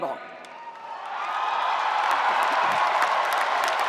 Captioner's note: spectators cheering; spectators applauding